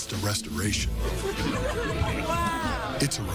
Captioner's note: people talking